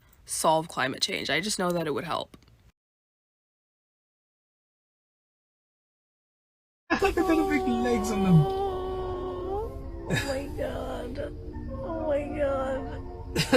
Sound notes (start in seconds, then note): 10.1 laughs